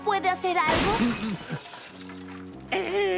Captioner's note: smash